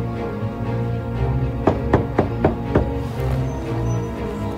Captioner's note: knocking